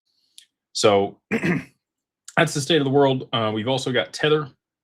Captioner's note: clears throat